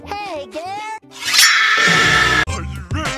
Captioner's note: Spongebob Screams